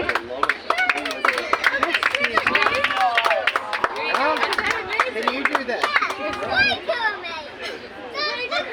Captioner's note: applause